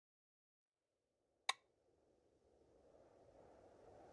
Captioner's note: wind howls